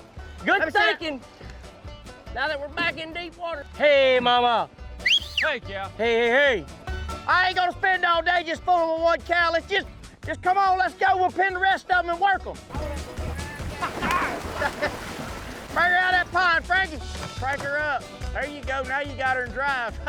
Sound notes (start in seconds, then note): 5.0 whistling; 12.7 rocking, splashing